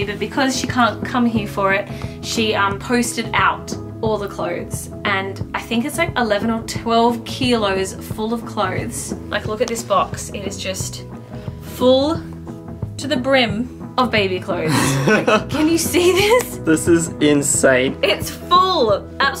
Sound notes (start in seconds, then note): 14.7 laughs